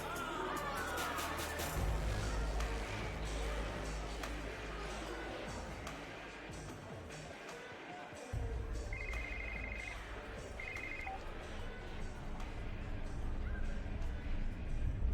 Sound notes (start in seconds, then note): 8.7 phone answered; 8.9 phone rings